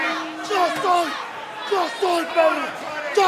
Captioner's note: crowd chatter